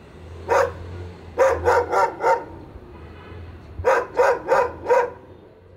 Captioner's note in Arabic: ينبح كلب